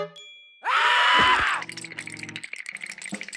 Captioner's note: chattering